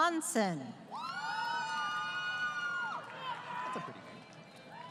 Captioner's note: crowd Cheering